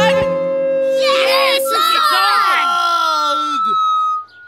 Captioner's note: feedback sounding